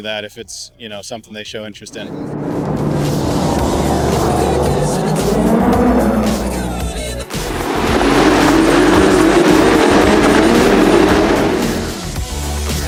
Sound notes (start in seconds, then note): 2.9 engine revving; 7.8 upbeat music